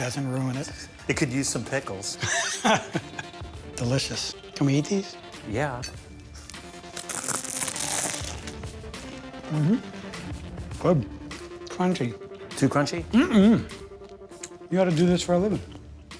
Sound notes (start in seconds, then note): 2.2 laughs; 6.9 loud crunch